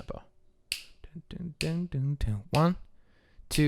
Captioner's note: sounds of snapping fingers